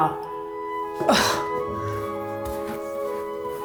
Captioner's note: scoffs